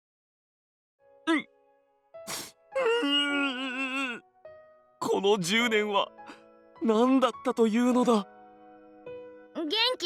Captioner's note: sniff